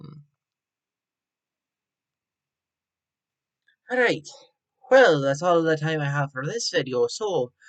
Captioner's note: irish Accent